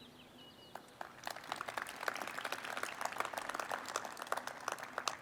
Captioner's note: audience applauds